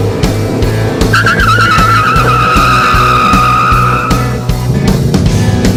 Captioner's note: tires squeal; engine roars